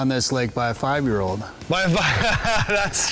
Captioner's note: laughing